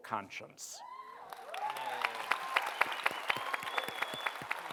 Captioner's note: cheering and applause